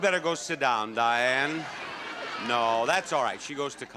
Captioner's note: audience clamors